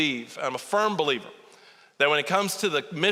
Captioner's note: none